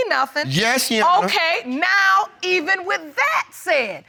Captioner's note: none